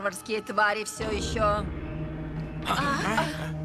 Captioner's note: gong sounds